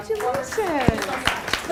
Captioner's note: applause